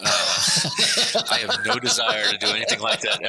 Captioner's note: laughing